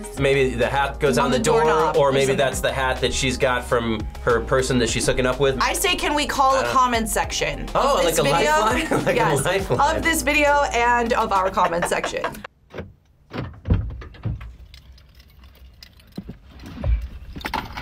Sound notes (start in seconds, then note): 11.1 laughs